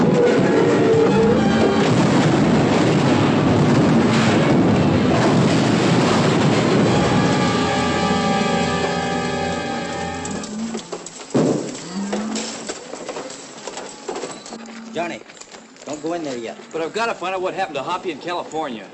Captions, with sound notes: [ RATTLING, ROARING ] [ CATTLE MOOING ] Johnny, don't go in there yet. I want to know what happened to Hoppy and California.